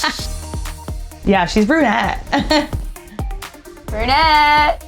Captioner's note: laughing; bright gentle music; laughing